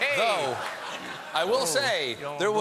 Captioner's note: laughter; applause